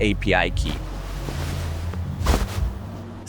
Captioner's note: air whooshing